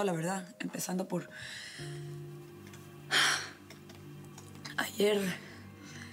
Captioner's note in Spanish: exhala